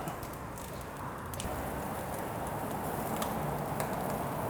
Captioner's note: sizzling